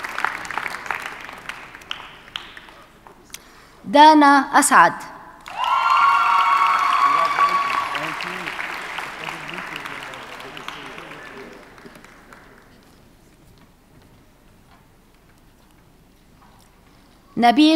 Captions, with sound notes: Dana Asad. (audience cheers and applauds) - Congratulations. - Thank you. (murmurs) - Good to see you.